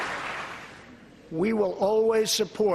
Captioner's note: applause